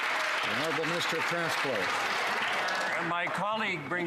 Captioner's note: some Applause